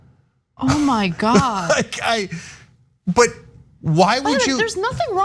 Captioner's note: laugh